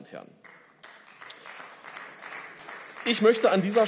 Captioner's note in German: Beifall